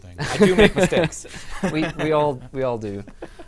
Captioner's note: laughter